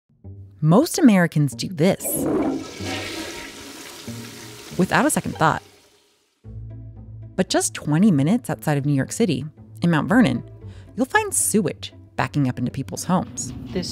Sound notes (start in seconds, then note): 2.0 toilet flushing